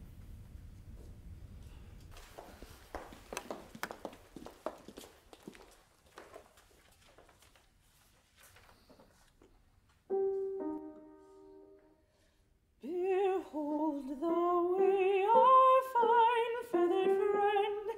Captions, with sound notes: [footsteps tapping] [gentle piano music] * Behold the way our fine feathered friend *